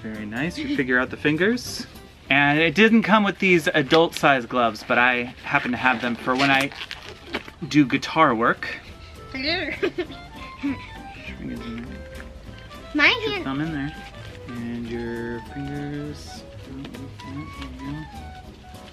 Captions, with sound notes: Very nice, you figure out the fingers. And it didn't come with these adult size gloves, but I happen to have them for when I do guitar work. - Hello, (laughs) my hand. - Put your fingers in there, put your thumb in there, and your fingers, yep, yep, there you go,